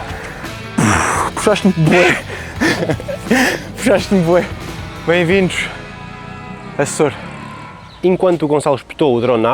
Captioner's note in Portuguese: risadas